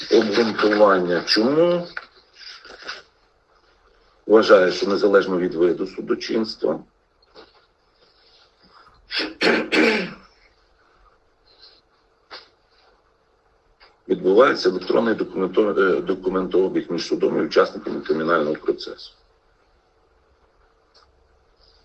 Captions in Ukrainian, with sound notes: обґрунтування. Чому? Вважаю, що незалежно від виду судочинства [прочищення горла][кашель] відбувається електронний документо документообіг між судом і учасниками кримінального процесу.